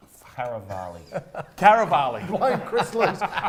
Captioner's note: laughing